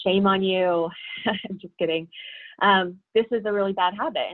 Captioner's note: laughs